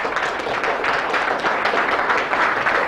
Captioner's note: applause